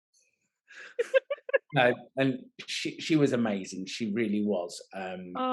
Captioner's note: laughing